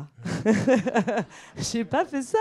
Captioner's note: laughs